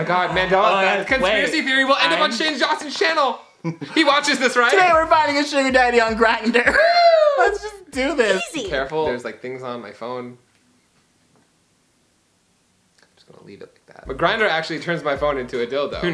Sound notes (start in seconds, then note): 10.8 silence